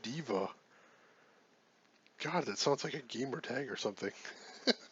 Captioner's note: laughs